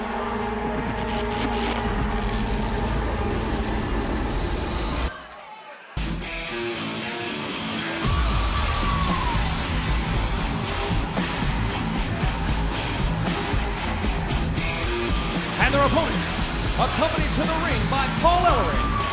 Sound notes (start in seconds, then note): 5.9 crowd cheering